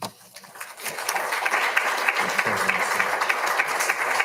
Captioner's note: all applauding